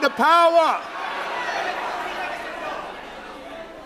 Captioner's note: loud shouting